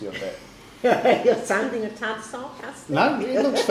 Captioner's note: laughs